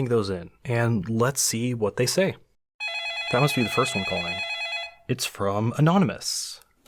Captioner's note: phone ringing